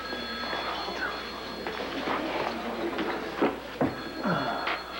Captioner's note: telephone rings